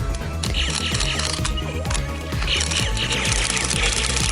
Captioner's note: Nerf blaster firing